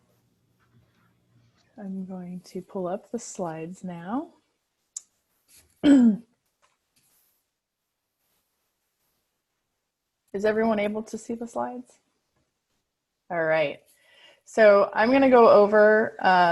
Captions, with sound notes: I'm going to pull up the slides now. (Clears throat) Is everyone able to see the slides? All right. So I'm gonna go over